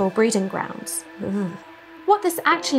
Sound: sound of erotic revulsion

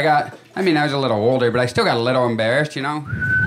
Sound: whistling

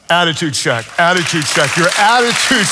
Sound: congregation applauds

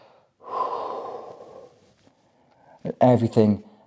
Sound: exhales

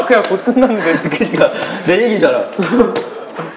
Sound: sad laughter

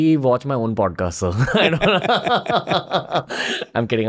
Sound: laughter

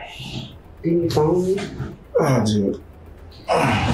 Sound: Oscar grunts

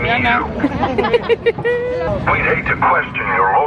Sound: giggling

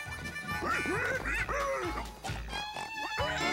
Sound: rolo squealing

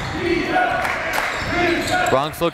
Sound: crowd

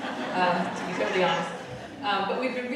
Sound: audience laughing

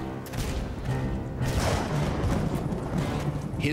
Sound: thunderclap

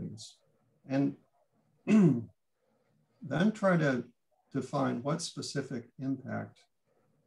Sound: clears throat

